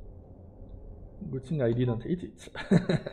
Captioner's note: chuckle